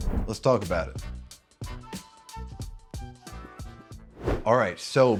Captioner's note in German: Luftrauschen; fröhliche Musik